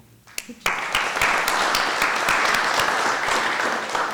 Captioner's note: applause